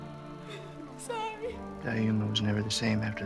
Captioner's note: crying